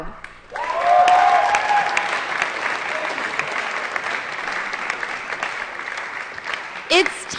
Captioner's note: applause & Cheering